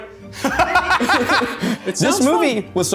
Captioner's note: laughing